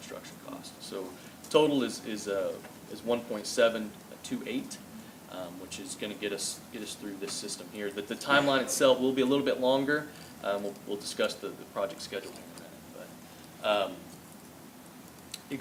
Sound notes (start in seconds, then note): none